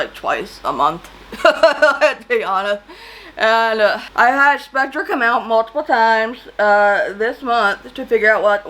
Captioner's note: laughs